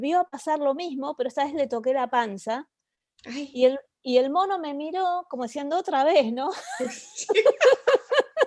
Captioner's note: laughs